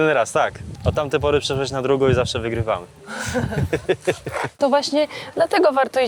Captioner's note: laughs